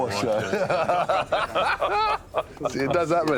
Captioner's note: laughs; laughter